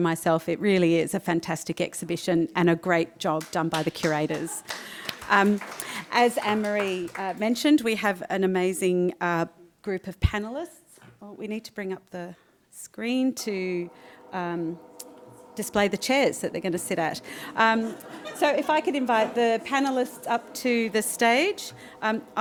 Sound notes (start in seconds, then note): 3.3 audience clapping